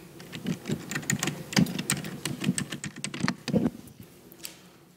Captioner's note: mic rumbling